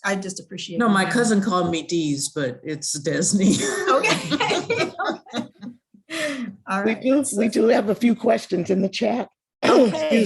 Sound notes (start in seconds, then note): 3.6 laughs